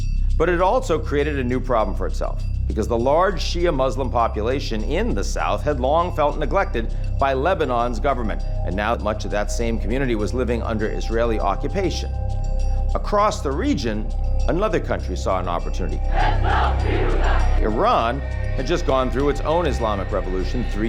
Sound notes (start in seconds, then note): 16.1 crowd chanting